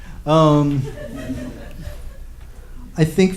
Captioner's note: laughs; laughter